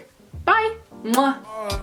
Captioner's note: mwah